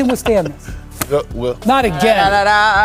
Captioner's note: wise laugh